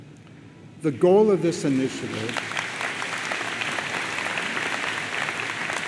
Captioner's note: audience applauds